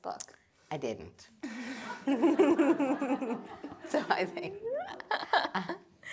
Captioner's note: laughter